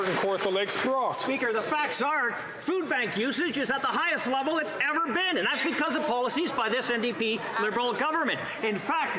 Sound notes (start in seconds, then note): 0.0 some Applause